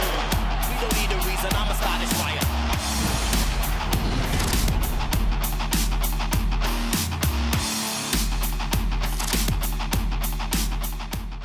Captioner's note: cheers and applause